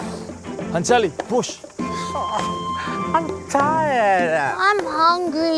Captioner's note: sobs